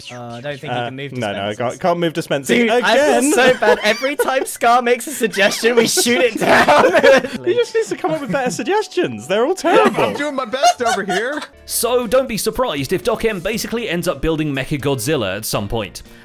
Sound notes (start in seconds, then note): 3.1 laughs